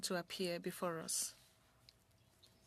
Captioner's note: speaking French